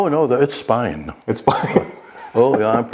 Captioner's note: laughs